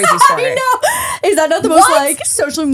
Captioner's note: laughing